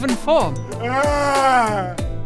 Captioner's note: despair.wav